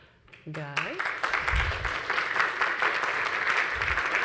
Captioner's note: audience applauds